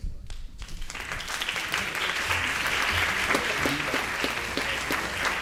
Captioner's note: audience applause